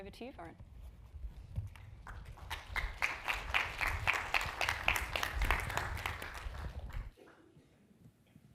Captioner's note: applause